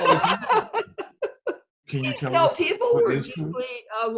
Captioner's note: both laughing